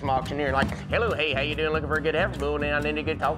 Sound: auctioneering

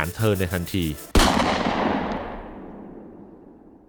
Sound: sound of a gunshot

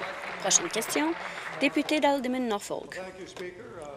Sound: applause

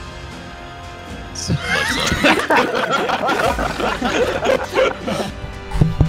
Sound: everyone laughing

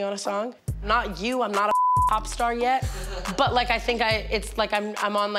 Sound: beep

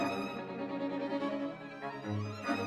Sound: none

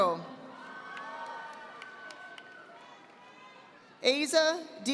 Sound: audience applauding

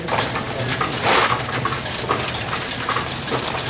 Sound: coins rattling

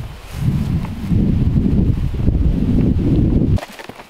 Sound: thunder rumbling

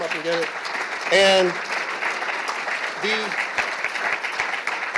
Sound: applause

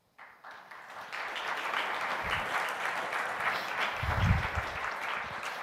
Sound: audience applauding

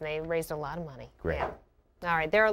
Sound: voiceover

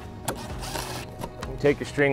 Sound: drill buzzing

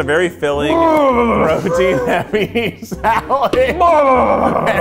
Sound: grunting

